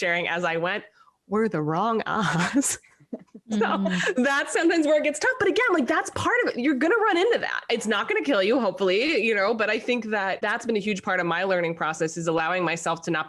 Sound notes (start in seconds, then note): 3.1 all laugh